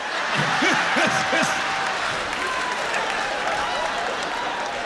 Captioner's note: laughter